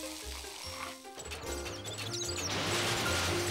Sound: sizzling; mice squeaking

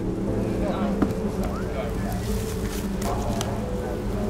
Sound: people mumbling

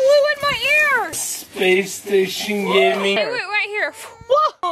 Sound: man's saying " space station gaming" in slow motion

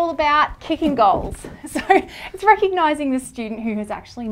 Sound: laughs

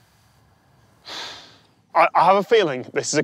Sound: sighs

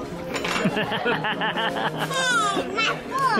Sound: laughing

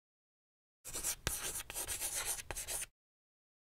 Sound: chalk writing on board

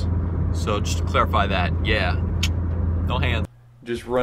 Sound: clicks

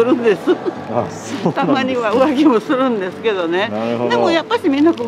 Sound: laughs

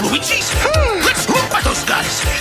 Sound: surprised gasp

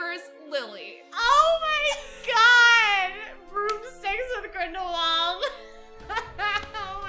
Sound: both laugh

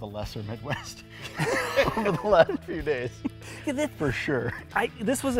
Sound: laughing

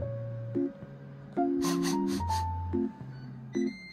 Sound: sniff sniff

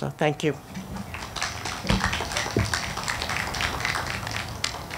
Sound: audience clapping

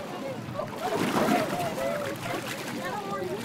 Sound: people chatter excitedly

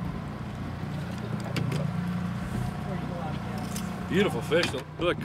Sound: boat engine idling

